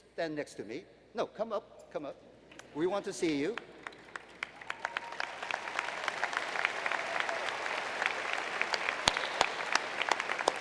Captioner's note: applause